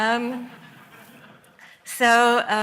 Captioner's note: laughter